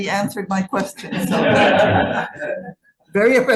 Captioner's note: group laughing